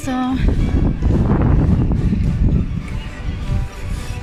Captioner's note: wind & horse carriage